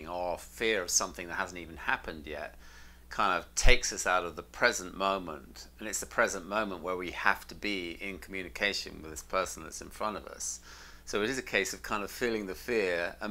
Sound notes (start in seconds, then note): none